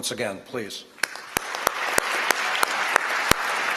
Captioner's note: applause